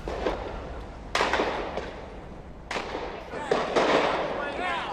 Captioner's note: gunshots